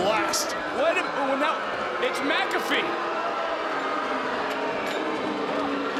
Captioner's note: crowd boos